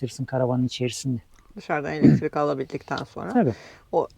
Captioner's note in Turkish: boğazını temizler